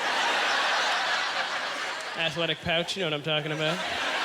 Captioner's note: audience laughter